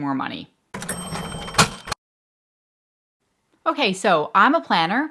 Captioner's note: cash register dings